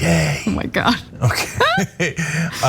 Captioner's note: laugh